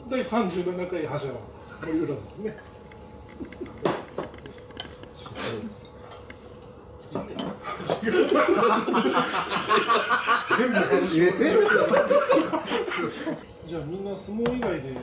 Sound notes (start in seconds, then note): 7.7 laughs; 12.7 huge laughter